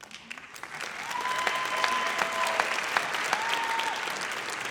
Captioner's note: audience applauds